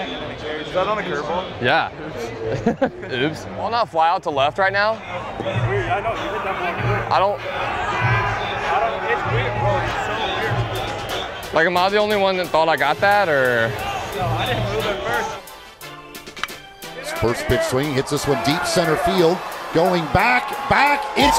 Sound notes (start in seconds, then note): 2.5 laughing